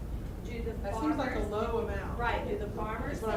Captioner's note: voiceover